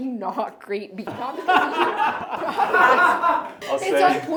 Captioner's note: everyone laughing